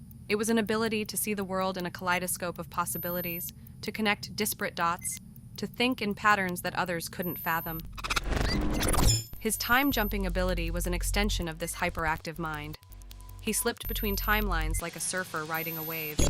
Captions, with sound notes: It was an ability to see the world in a kaleidoscope of possibilities, to connect disparate dots, to think in patterns that others couldn't fathom. [beeping] His time-jumping ability was an extension of this hyperactive mind. He slipped between timelines like a surfer riding a wave,